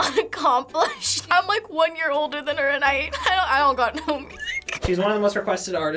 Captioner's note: laughs; squeaks